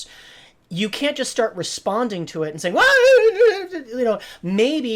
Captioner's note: shouts